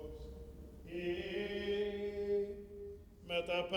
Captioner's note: chanting continues